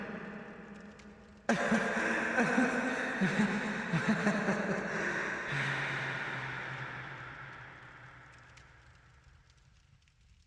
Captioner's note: final coughing laughter